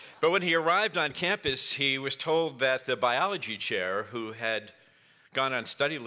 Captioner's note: laughter